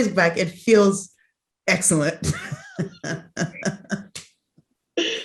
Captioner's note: laughs